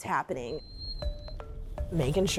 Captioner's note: dog whining